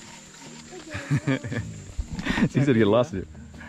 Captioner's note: laughing